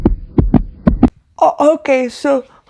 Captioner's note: heartbeating